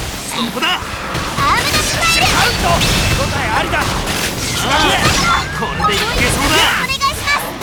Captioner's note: battle chatter